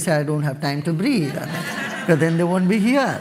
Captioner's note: laughter